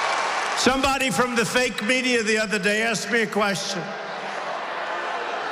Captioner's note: applause